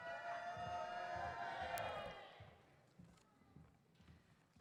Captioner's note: audience cheers